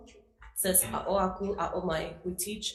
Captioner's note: speaking foreign language